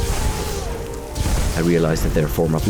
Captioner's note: kaZAAAP!!!; kaZABOOM!!